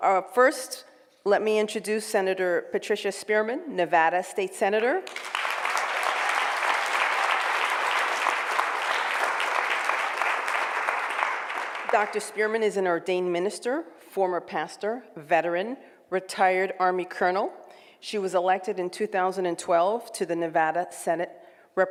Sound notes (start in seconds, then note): 5.0 applause